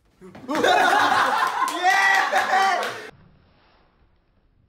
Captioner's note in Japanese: 爆笑